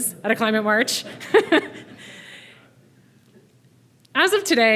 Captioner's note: laughing